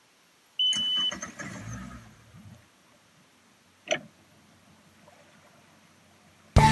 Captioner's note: key beeps; boat engine turns over